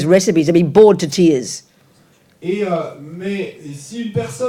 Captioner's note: French